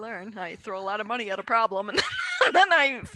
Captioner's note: laughs